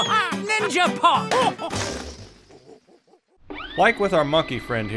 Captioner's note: gorilla hooting